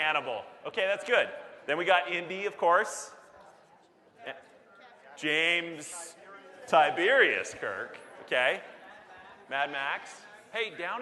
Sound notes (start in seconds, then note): 5.2 audience Murmurs